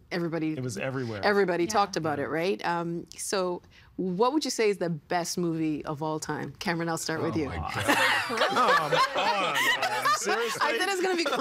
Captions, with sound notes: It was everybody. Everybody talked about it, right? So, what would you say is the best movie of all time? Cameron, I'll start with you. Oh, my God. Come on, Nam! Seriously? (Laughing) I said it was going to be controversial.